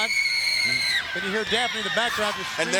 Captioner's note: Daffney screaming